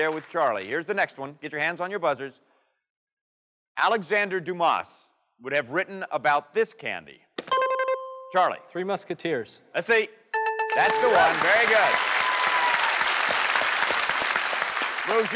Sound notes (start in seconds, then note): 7.5 dings; 10.4 dings; 12.4 applause